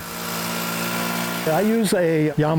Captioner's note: engine rumbling